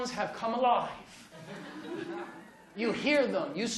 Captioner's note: laughter